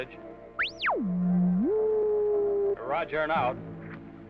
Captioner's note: car beeping